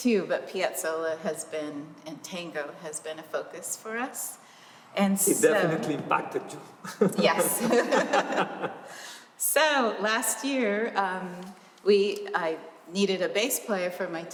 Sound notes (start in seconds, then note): 6.8 laughter